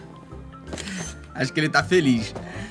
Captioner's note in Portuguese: som de máquina fotográfica